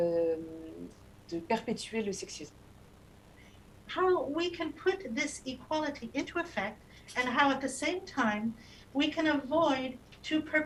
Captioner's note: speaking non-english